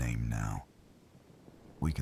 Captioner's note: wind Blowing